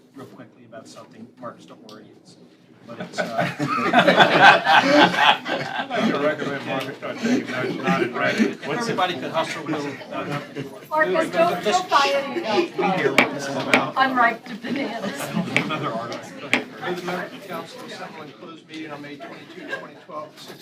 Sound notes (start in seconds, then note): 6.9 laughter